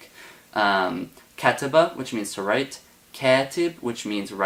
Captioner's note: speaks Arabic